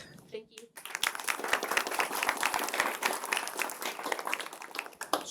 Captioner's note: applause